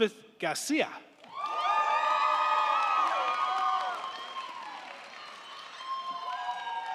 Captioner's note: crowd cheering; crowd clapping